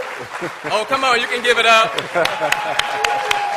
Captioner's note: laughter